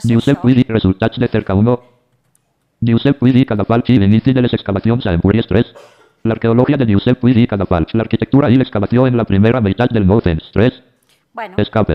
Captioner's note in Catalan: veu del lector de pantalla